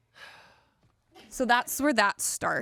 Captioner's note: sighs